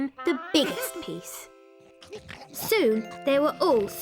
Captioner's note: chewing